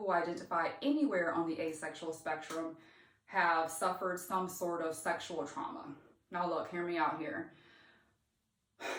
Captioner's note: sighs